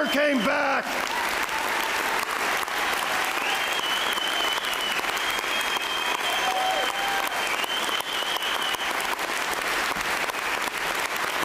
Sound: applause

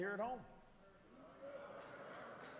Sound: applause

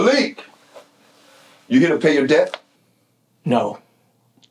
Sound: none

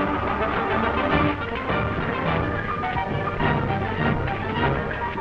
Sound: sounds of struggle

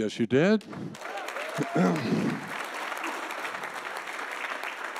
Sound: audience applauding

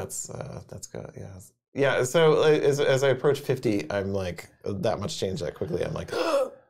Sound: gasp

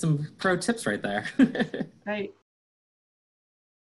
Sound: laughs

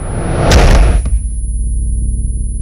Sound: thud

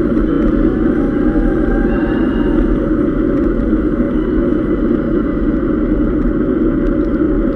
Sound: shouts of cyclists

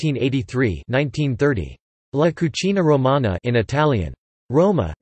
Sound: in Italian

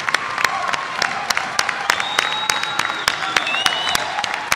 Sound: applause

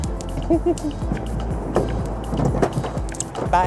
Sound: Laverne giggles

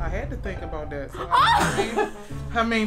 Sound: laughs

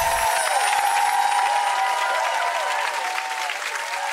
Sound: audience cheers

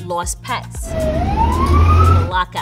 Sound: siren wailing

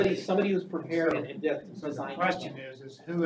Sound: indistinct chatter

